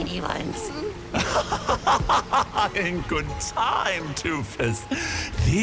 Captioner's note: laughing maniacally